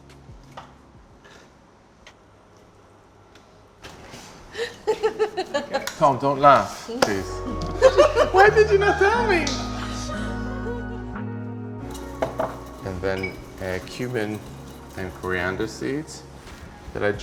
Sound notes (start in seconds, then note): 4.5 laughs; 7.6 all laughs